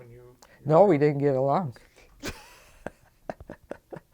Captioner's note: laughs